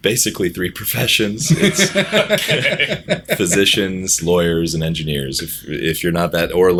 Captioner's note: laughter